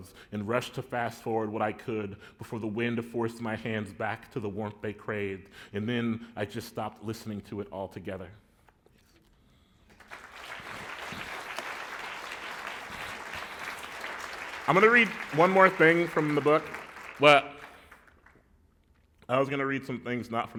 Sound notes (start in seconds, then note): 10.0 applause